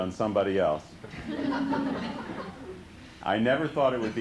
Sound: laughter

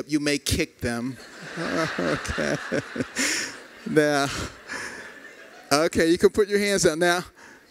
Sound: laughter

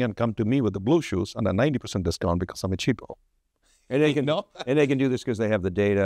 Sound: laughs

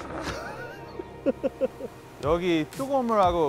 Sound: laughing

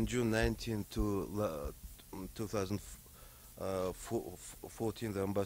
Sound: stutters

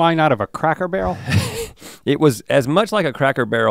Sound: chuckles

